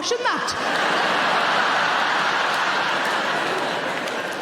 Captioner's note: audience laughing